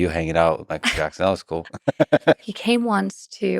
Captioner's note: laughs